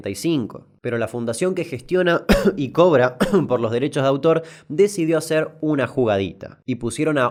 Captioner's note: cough